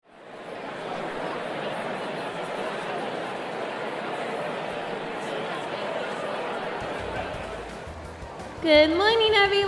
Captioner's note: crowd ambience